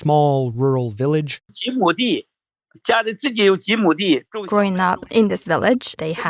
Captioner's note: speaking Mandarin